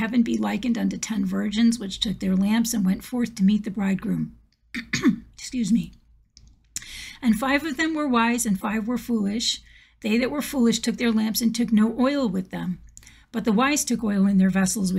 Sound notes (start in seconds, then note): 4.8 clears throat